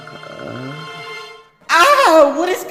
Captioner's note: Nate screams